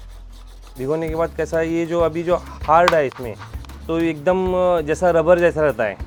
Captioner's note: speaking foreign language